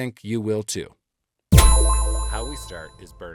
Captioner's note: tone echoing